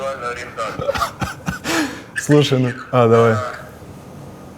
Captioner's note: laughs